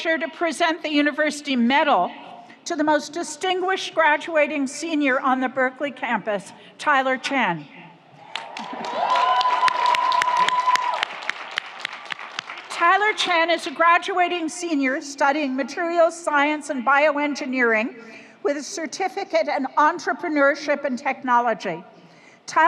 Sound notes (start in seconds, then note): 8.2 audience cheers; 8.2 audience applauds